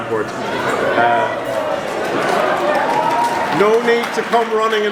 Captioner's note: audience cheering